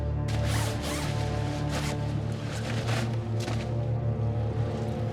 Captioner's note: body bag rustling; somber music